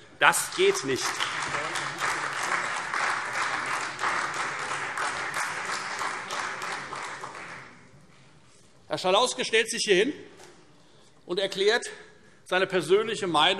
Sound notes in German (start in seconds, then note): 0.2 Beifall Freie Demokraten, CDU und AfD